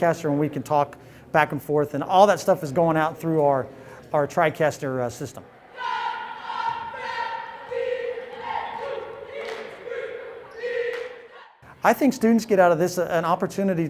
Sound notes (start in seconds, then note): 5.4 cheerleaders cheering